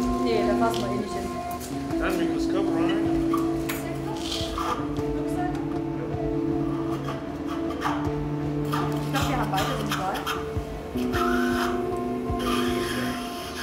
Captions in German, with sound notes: Nee, das lassen wir. - Mein Mikroskop rein. (Vitalgeräusche, Stimmengewirr) (Sauggeräusche)